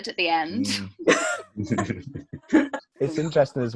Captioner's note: they laugh